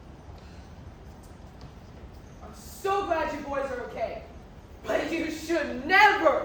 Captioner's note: none